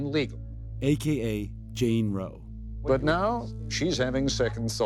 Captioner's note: soundbite of archived recording